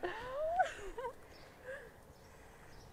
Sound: laughter

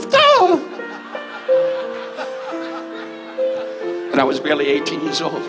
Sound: audience laughs

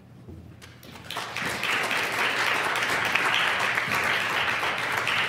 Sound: applause

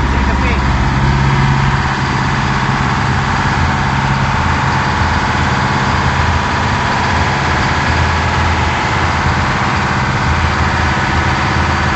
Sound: engine noise

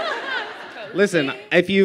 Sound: laughter

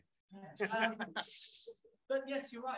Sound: audience laughs

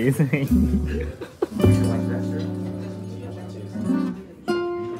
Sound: chuckles

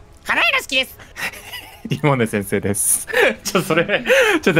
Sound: laughs

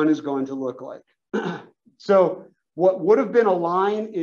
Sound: cough

